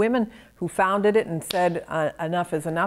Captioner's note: claps hands